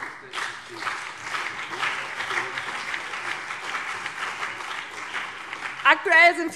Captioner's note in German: Beifall BÜNDNIS 90/DIE GRÜNEN und CDU